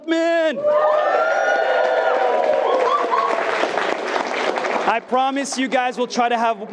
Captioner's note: attendees cheering and clapping